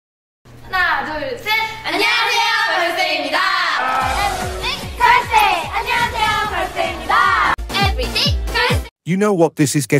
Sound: girls Speaking Korean

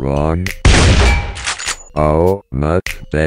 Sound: gunshot

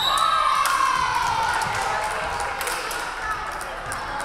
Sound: referee whistling; crowd clapping

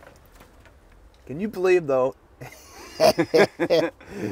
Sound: laughs

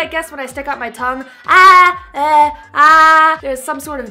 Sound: tongue out noise

